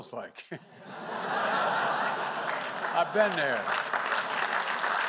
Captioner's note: laughter and applause